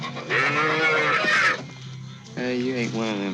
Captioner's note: cow mooing